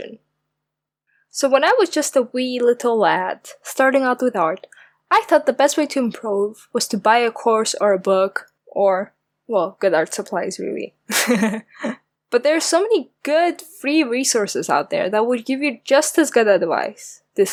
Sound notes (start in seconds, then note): 11.1 laughs